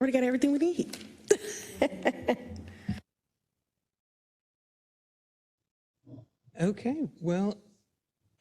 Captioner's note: laugh